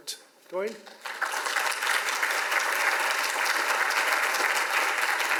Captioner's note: audience applauds